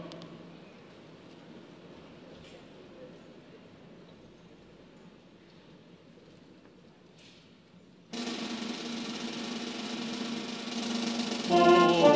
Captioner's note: silence